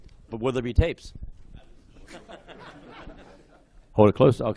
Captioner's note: laughter